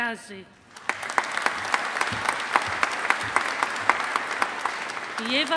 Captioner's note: audience applauding